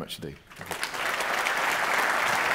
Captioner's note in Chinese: 鼓掌